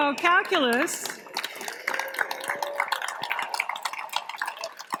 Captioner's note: applause